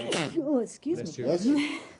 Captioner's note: sneezes